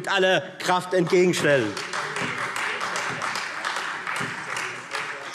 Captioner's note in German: Beifall Freie Demokraten